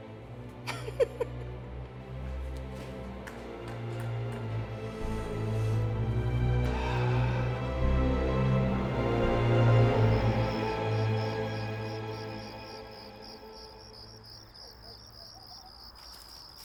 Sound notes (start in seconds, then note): 0.6 Lolita chuckles; 3.7 ominous music; 10.8 crickets chirping